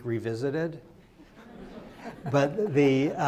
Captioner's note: crowd laughs